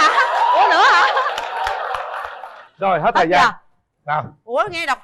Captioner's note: applause